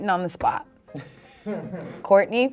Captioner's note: snickering